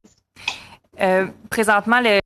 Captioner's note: speaking in French